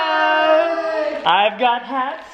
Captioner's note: cheering